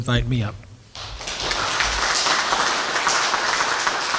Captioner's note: applause